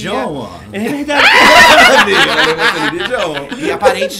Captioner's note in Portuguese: risos